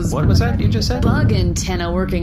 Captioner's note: skittering